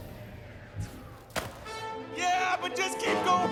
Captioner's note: music stops abruptly; rope smacks rock